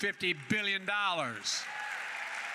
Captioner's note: applause